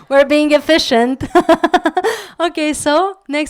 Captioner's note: laugh